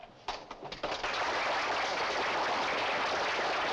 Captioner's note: applause